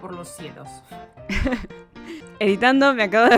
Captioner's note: laughs